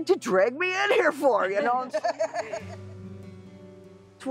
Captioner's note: laughter